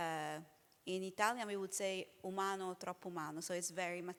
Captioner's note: speaking italian